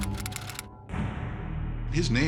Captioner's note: typewriter keys click